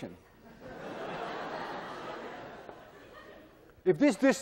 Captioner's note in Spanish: clase se ríe